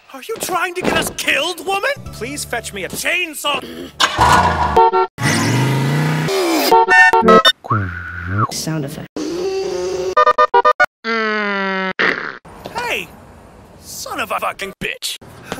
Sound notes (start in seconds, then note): 4.2 car horn; 5.2 reversed motor; 6.6 retarded car horn; 7.9 Michael rosen Qwuuuuu sound effect; 9.2 gnnnnnnng